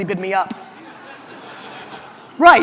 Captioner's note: audience laughter